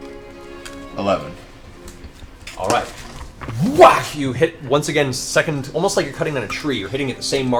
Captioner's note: whack